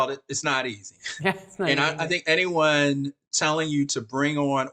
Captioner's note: chuckles